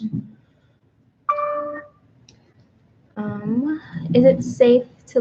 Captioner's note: computer dings